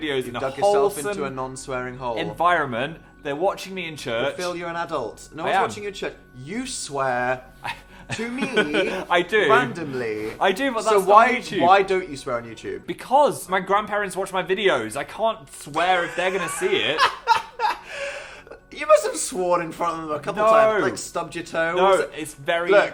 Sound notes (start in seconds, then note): 7.6 laughing; 16.0 laughs